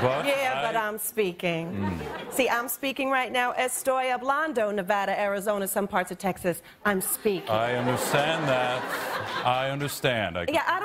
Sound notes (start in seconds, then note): 3.7 speaks in foreign language; 7.1 audience laughs